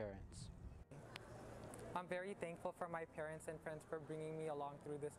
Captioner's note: none